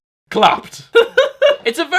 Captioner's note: laughs